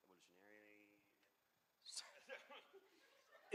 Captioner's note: laughter